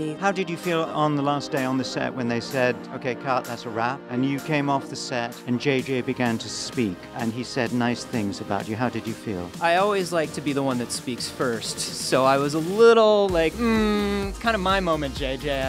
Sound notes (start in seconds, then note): none